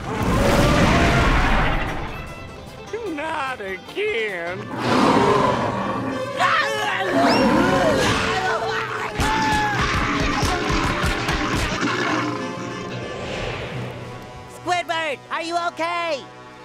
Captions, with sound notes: [roaring] Not again! [roaring] [screaming] Squidward, are you okay?